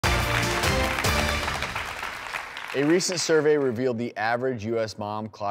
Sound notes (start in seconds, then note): 0.0 strong music; 0.0 applause